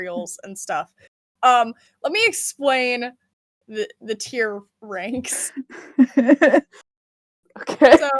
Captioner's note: laughs